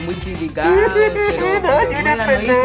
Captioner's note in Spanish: Llanto